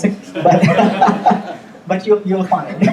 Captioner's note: audience laughing